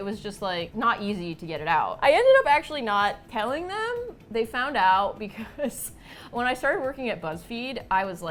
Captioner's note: laughs